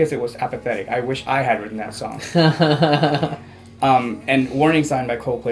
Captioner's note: laughs